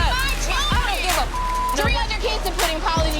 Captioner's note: beeping